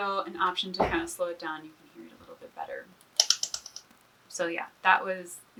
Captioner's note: bat noise